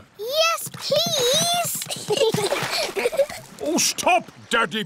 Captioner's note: giggles